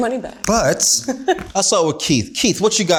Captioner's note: laughs